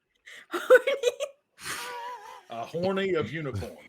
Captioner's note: laughs